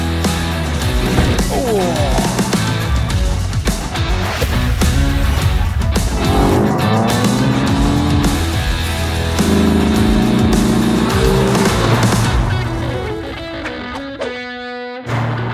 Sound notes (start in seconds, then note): 0.8 groans